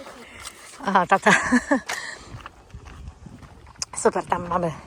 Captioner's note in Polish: śmiech